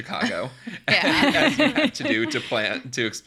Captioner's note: laughs